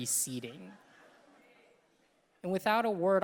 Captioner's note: audience laughing